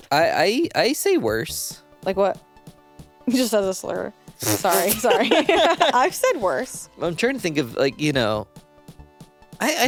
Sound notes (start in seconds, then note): 4.5 laugh